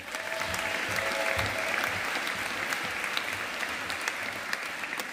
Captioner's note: audience applauding